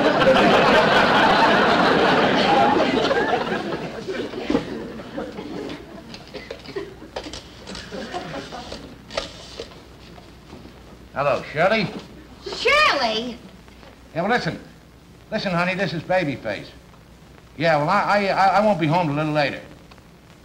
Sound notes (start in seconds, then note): 0.0 audience Laughing; 6.2 rotary Phone Dialing